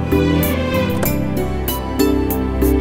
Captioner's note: Car door opens